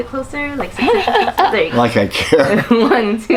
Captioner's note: laughing